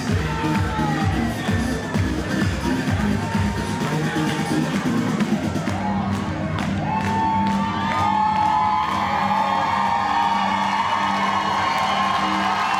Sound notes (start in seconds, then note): 5.6 audience applauds